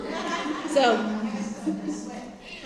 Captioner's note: laughter